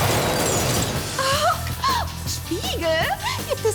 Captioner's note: explosion